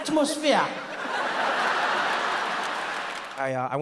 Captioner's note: audience laughs